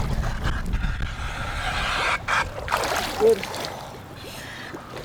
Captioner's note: ventilator hissing